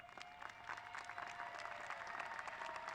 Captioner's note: applause